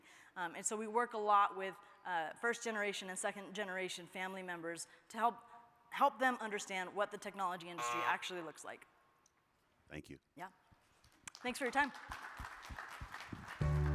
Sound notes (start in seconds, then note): 7.8 timer buzzing; 11.3 crowd applauding